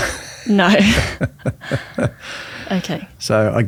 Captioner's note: laughs